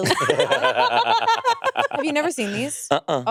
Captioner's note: both laughing